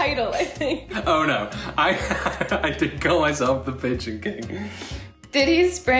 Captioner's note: laughs